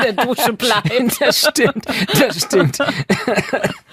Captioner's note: laughing; coughs